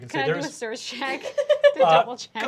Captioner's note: laughter